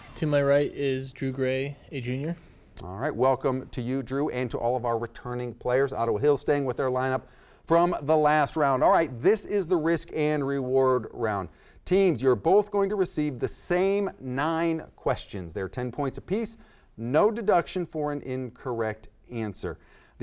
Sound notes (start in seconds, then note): none